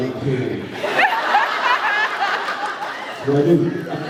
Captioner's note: laughs